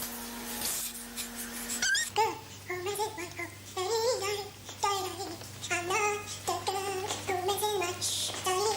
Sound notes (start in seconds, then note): 2.0 humming; 6.6 humming